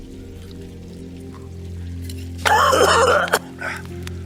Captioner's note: Ishmael coughing